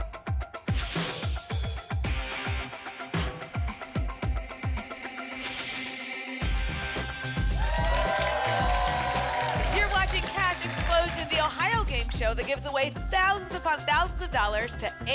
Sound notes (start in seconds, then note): 7.0 applause and cheering